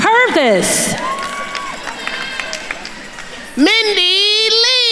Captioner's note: attendees cheering and applauding